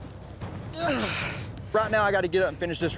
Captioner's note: grunts